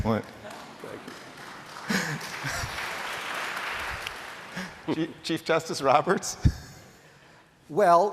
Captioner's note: applause